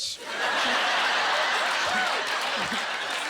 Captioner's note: laughing